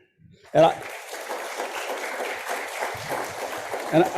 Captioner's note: audience applauding